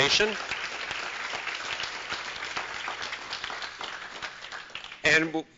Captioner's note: applause